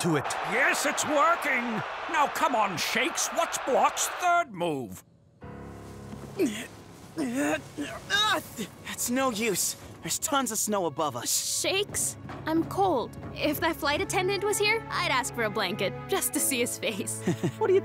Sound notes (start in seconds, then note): 6.4 grunting; 17.2 chuckling